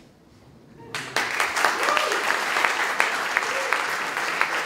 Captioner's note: applauding